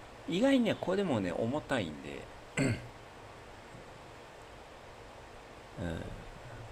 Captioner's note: clears throat